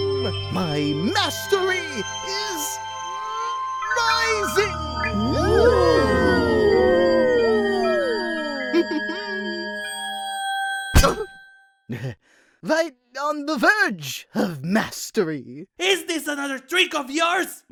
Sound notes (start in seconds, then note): 8.5 Silver Spoon chuckles; 10.9 slam